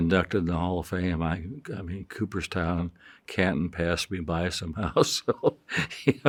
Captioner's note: chuckles